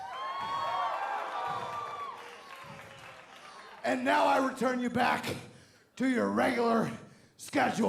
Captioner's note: cheers & applause